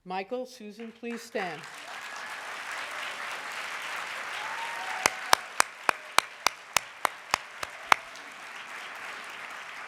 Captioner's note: audience clapping